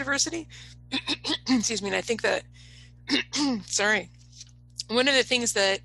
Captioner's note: coughs